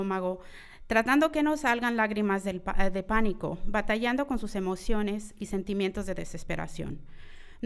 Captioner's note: continues speaking in foreign language